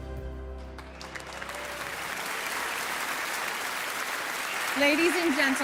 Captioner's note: audience applauding